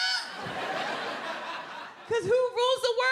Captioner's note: audience laughing